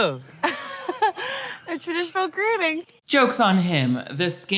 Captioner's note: chuckles